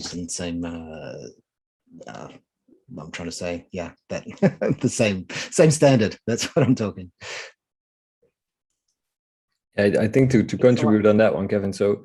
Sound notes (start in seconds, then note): 4.2 chuckling